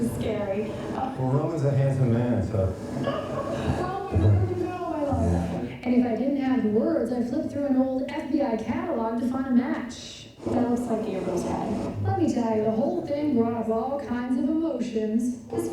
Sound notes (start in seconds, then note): 0.8 chuckles; 2.8 chuckles